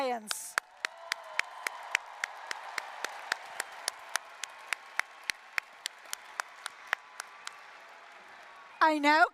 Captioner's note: applause, cheering